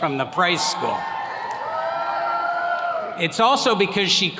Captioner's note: attendees cheering